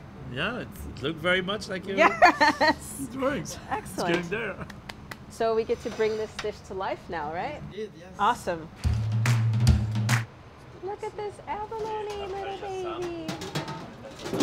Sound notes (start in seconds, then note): 2.0 laughs; 4.6 clapping